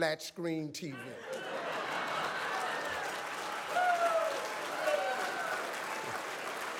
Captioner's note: audience applauds